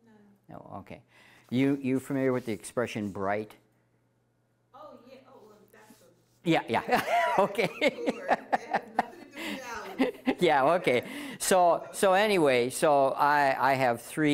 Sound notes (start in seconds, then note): 6.8 laughing with audience